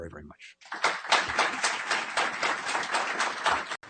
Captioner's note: applause